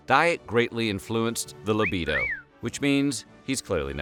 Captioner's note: cat call sound